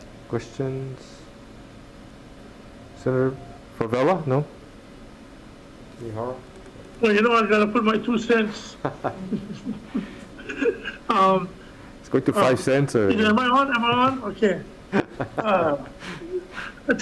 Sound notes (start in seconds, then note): 8.8 Senator Taniguchi and Senator Fevella laugh; 15.0 laughs